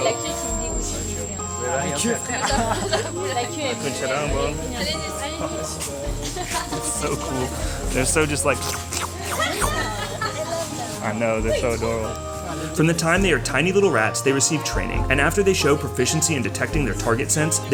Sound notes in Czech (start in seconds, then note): 8.5 slurpující zvuky